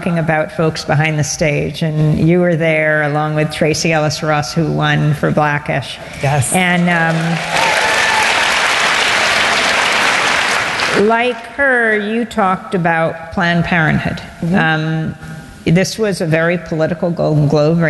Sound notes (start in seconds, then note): 7.0 cheering and Applause